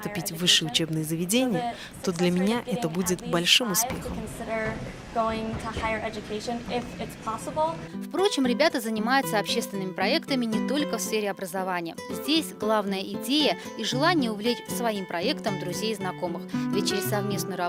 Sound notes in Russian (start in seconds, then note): 4.2 английская речь